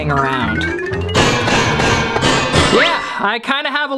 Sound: banging sound

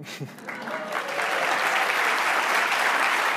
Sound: applause

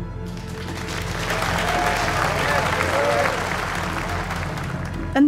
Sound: audience applause

